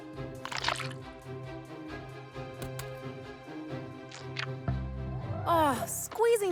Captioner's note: Squish